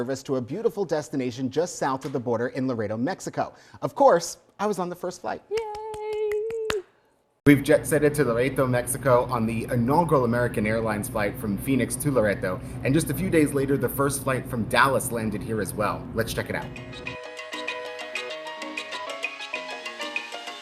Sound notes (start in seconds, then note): 5.5 claps; 16.7 upbeat music